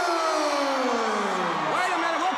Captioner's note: crowd cheering